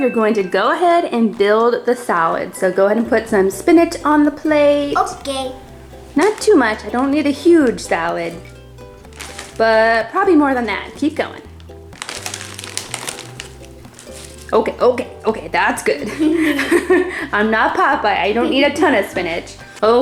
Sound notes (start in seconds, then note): 16.0 laughing